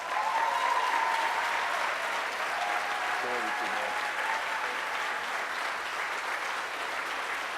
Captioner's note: applause